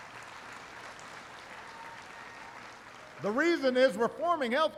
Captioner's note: applause